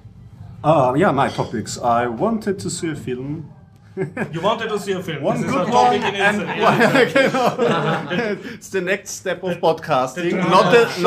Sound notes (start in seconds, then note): 3.9 laughs